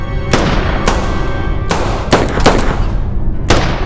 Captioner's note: guns firing